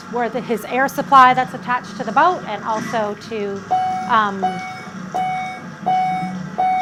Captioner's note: bell dings